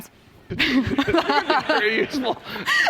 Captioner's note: laughter